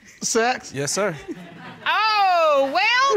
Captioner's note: audience laughing